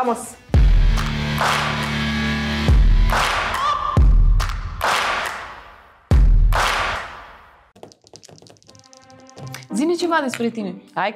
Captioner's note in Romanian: Aplauze